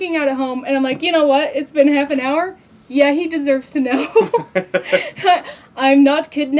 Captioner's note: laugh